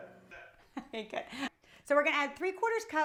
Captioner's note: laughs